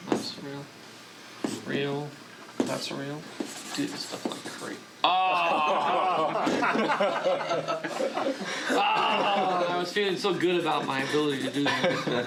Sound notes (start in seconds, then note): 6.6 group laughing